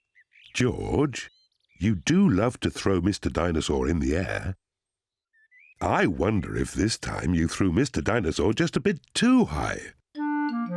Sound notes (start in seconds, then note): none